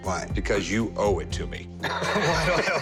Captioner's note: laughs